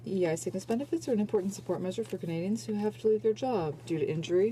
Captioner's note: speaking french